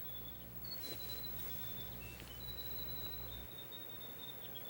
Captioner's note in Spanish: pássaros cantando